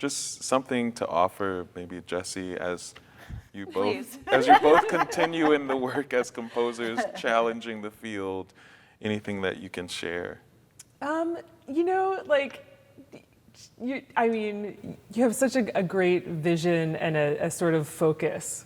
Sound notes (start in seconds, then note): 3.7 laughing